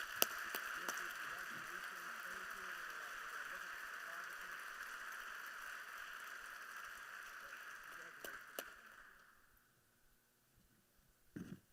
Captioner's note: applause